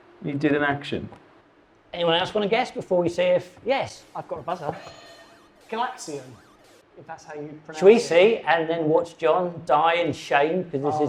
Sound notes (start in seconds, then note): 5.5 buzzer blares